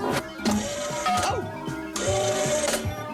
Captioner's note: clank